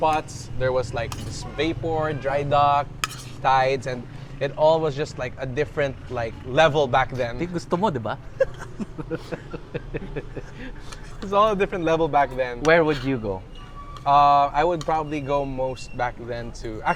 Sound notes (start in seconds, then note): 8.2 laughs